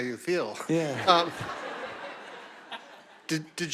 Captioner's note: audience laughing